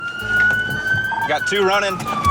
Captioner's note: police siren